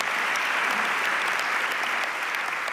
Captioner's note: audience applauds